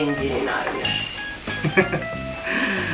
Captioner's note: laughs